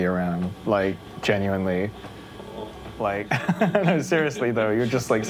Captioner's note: laughs